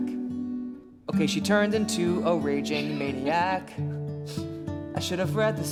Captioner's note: Jane laughs